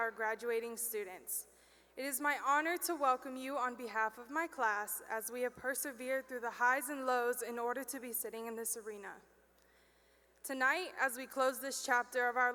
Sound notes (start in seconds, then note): none